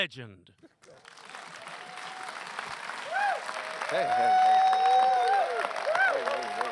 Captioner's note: applause